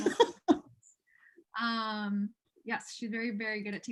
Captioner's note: laughter